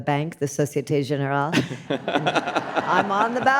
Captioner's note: audience laughs